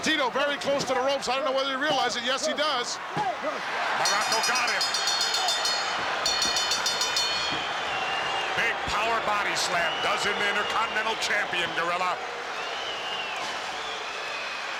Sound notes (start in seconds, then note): 4.0 bell rings; 7.4 crowd boos